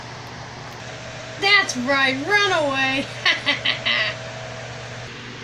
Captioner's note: laughing